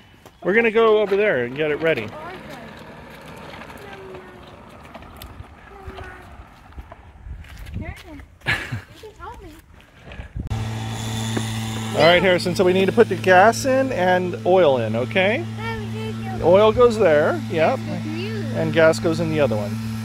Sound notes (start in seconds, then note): 10.5 lawnmower in background